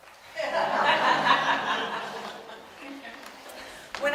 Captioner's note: audience laughs